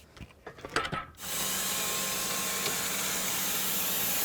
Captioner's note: saw whizzing